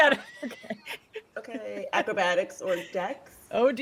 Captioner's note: person laughing